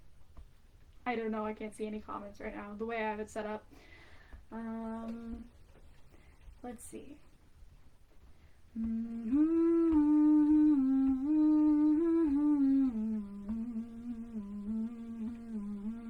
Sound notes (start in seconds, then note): 8.6 humming earthly/spiritual song